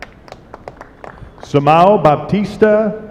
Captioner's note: applause